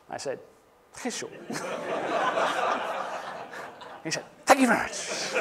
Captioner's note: laughter